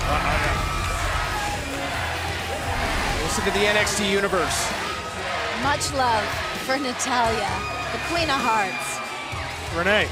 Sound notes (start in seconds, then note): 0.0 cheers & applause; 3.3 fans chanting